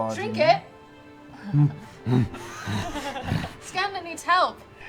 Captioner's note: bear grunts